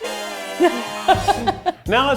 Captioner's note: laughs